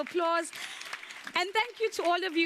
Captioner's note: audience applauds